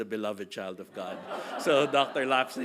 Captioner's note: audience laughing